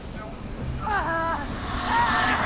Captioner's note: scream